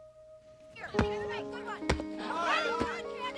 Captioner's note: clamoring